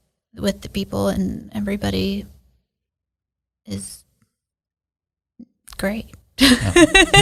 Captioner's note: laughs